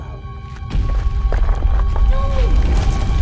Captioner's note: gravel crunching